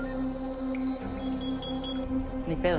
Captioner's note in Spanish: Pitidos